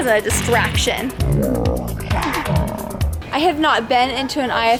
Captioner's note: slow motion speaking